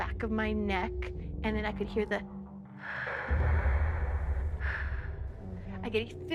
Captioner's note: breaths